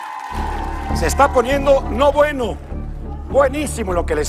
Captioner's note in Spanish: Gritos